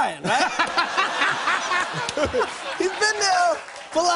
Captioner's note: laughter